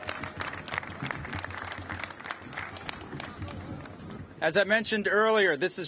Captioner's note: applause